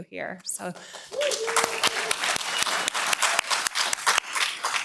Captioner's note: applause